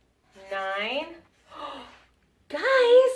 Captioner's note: gasps